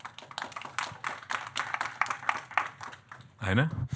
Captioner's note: audience clapping